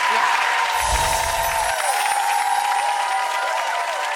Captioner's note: applause